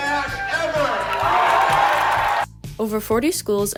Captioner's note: audience screaming